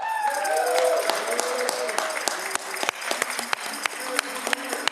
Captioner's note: audience cheering